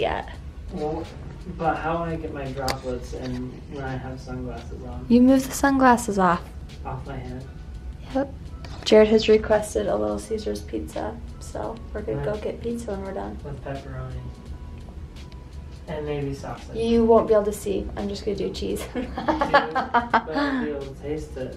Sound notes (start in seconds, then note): 18.8 laughs